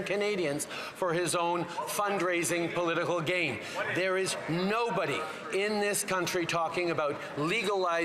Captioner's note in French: voix de l'interprète